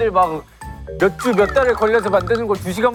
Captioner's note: whining